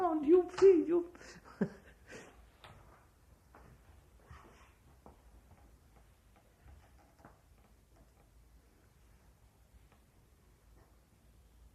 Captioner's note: laughs